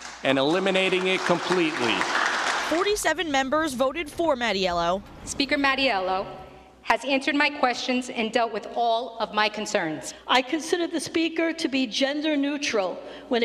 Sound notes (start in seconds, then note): 0.0 short applause